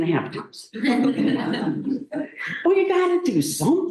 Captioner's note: laughter